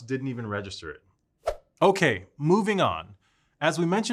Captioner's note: swoosh effect